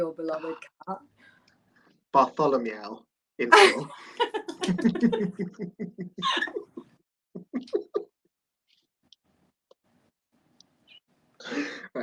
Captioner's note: laughter